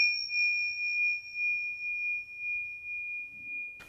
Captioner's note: bell ringing